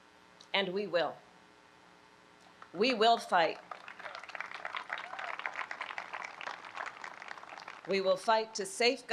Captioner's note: applause